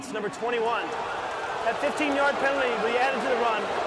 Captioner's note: booing